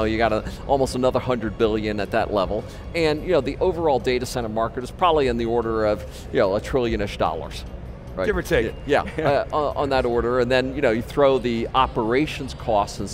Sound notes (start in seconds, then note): 9.0 laughs